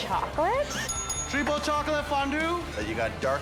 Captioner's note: bell dings